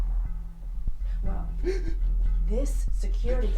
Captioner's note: Cameron sobbing